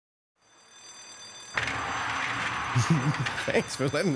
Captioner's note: alarm sounding